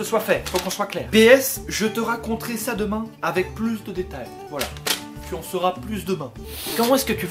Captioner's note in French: snif